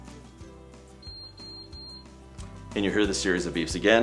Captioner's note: three beeps beeping